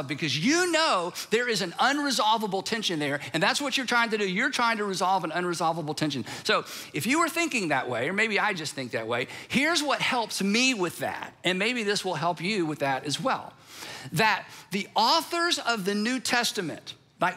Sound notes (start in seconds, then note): none